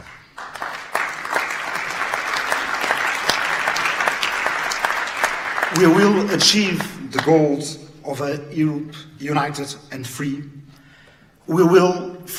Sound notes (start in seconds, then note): 0.0 audience claps